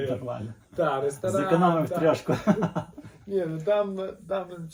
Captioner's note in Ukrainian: сміх